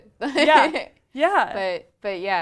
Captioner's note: laugh